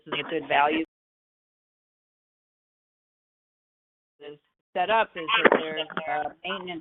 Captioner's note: speakers voice fades